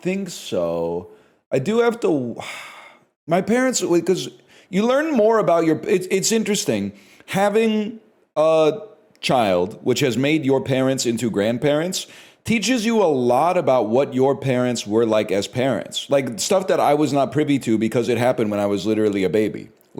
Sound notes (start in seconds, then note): 2.4 sighs